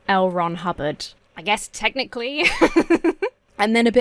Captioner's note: laughs